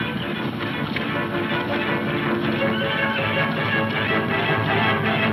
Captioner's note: dramatic music; blows thudding